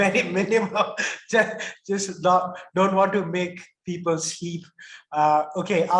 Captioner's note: laughs